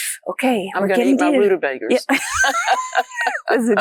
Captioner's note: laughs